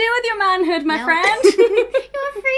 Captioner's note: laugh